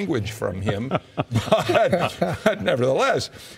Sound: laughing

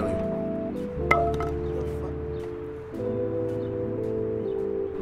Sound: bat thudding

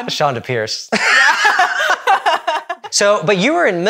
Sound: both laugh

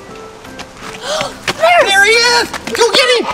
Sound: gasps

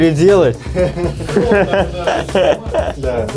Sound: laughing

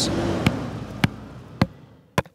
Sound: truck driving away and pounding in stake

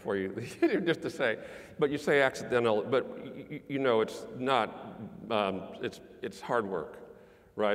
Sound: laugh

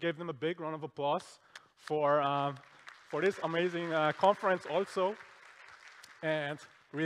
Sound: applause

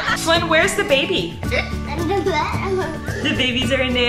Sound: mumbling

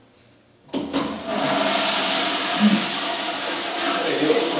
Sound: flushing

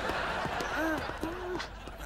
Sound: groaning

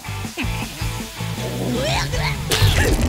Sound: retching

